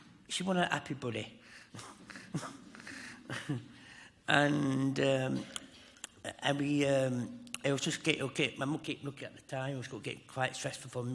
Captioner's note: chuckles